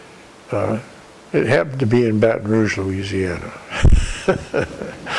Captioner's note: laughter